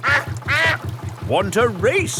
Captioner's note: quacks